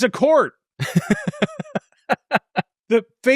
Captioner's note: laughs